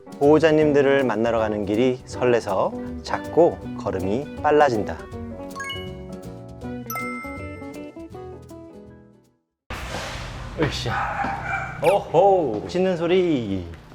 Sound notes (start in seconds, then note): 10.3 roar of a beast